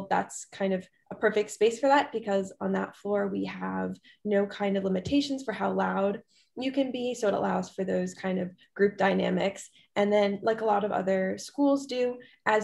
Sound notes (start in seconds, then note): none